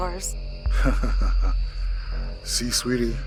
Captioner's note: Roy chuckles